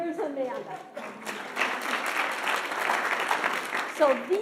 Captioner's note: audience applauding